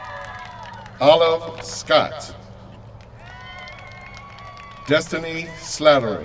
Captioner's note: cheers from crowd